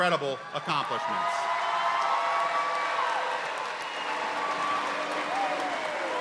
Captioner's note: audience cheering and applauding